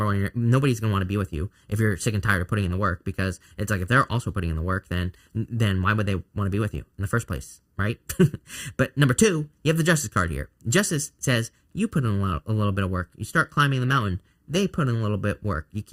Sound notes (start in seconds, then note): 8.0 chuckles